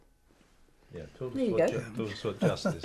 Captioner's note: laughs